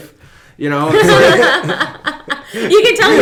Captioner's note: laughing